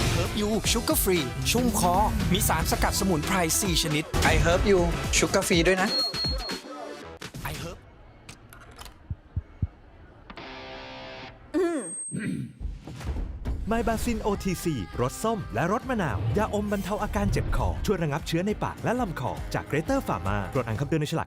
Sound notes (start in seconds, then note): 12.1 clears throat